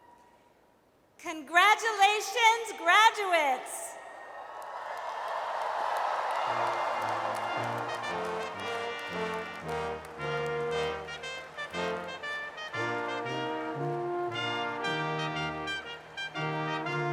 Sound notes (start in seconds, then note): 4.3 audience cheers; 6.7 regal brass band music